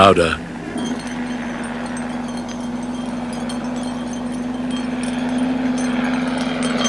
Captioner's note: plane noise